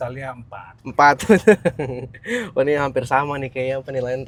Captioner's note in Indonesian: tertawa